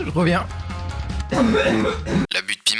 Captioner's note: coughs up leftover vomit